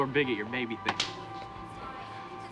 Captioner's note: slaps